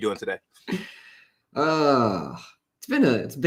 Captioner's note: long sigh